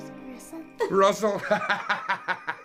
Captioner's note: laughing